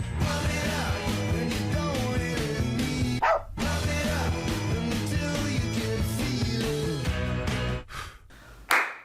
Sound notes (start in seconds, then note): 3.2 dog barking; 8.7 claps